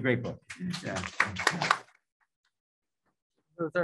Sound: applause

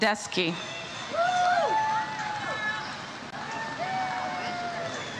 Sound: audience cheers

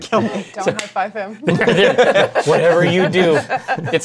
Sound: laughter

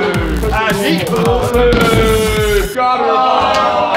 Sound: lads laughing; lads cheering; lads commiserating and applauding

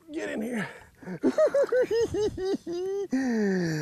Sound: giggles

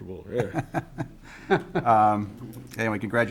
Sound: both chuckling

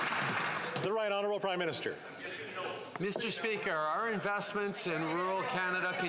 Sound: some Applause

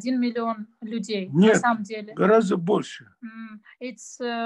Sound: in Russian

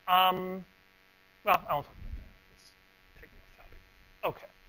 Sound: pause

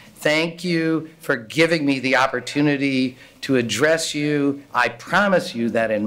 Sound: none

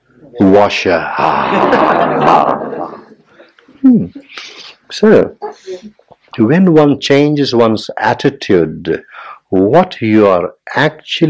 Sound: general laughter

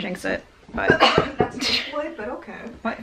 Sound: knocking

